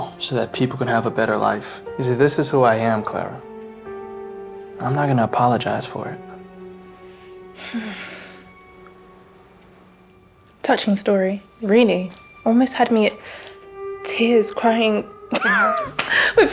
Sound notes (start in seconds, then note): 7.5 sighs; 15.3 laughs